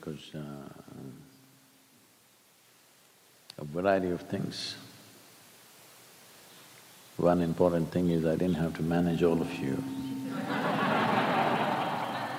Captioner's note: few laugh